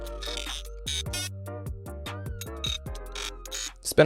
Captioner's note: sparks